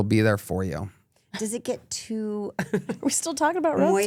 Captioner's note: laughs